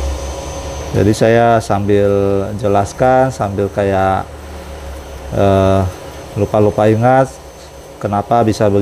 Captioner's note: printer machine noise